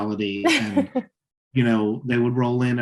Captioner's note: laughing